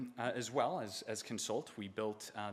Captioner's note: none